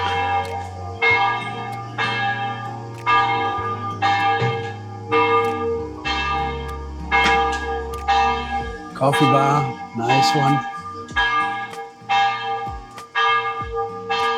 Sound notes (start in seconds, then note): 0.0 church bell